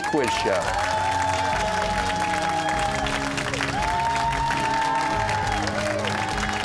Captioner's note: cheers and applause